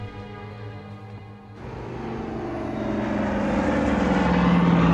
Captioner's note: aeroplane rumbling